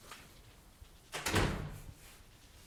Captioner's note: door closes